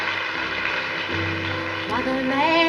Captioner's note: audience applauds